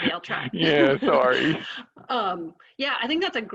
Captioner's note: laughs